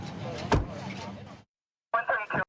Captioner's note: car door closing